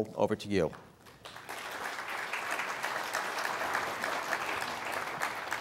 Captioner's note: audience applauding